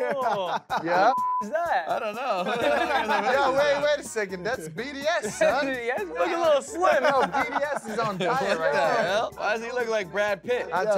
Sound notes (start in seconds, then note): 1.1 beep; 2.3 guys laugh